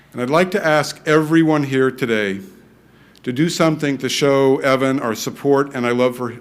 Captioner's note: none